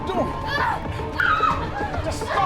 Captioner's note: screams